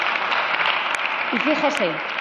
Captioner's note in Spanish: Aplausos